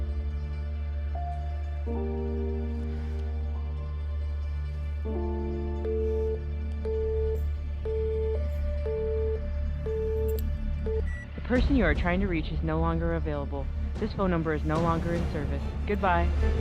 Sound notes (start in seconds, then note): 1.5 gentle suspenseful music continues; 5.2 call beeping